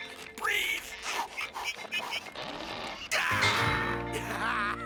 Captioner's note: huffing and puffing